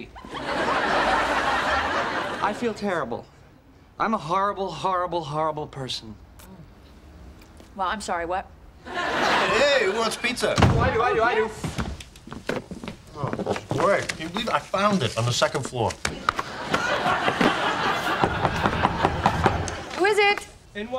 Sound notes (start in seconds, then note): 0.2 audience laughing; 8.8 audience laughing; 16.1 audience laughing; 18.2 officer knocking